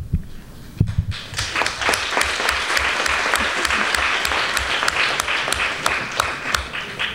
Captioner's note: applause